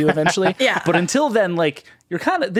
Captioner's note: all laughing